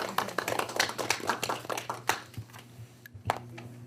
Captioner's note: applause